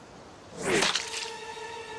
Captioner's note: splat